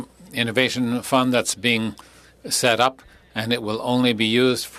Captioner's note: speaking French